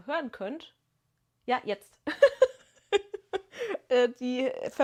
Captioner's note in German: gelächter